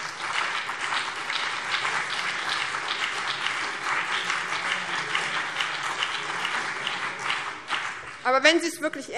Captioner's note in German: Beifall BÜNDNIS 90/DIE GRÜNEN und CDU